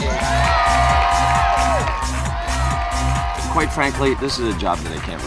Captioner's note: upbeat music continues; audience cheering and applauding